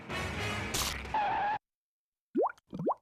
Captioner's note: skidding